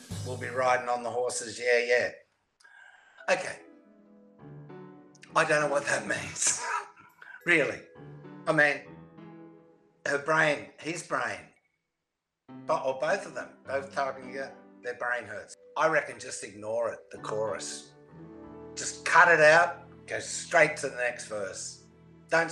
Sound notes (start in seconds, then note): 3.3 spooky music; 6.4 laughs